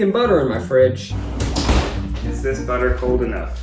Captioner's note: fridge door closing